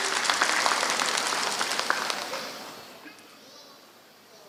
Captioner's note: applause